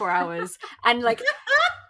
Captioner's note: laughs